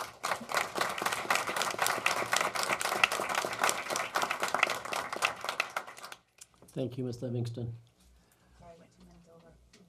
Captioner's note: applause